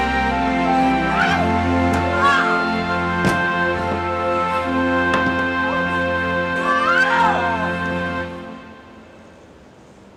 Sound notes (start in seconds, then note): 1.9 August screaming